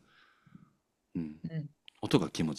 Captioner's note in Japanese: 咳払い